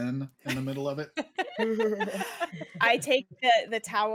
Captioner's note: all laughing